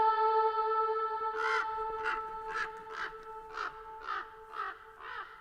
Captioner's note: eerie music; crows cawing